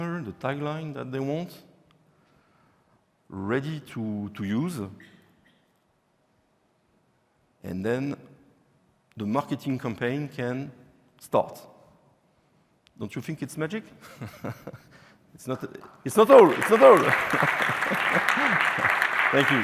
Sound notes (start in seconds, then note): 15.8 applause; 16.4 laughing